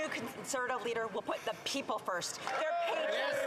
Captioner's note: applause